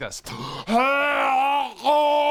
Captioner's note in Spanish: Hhhhrrggglgh